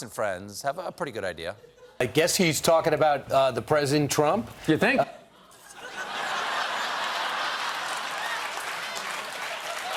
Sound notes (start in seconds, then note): 4.9 applause; 5.3 laughter